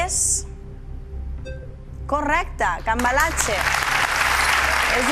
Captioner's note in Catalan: aplaudiments